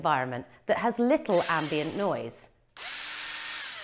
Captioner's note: whirring